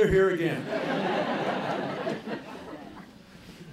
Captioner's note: laughter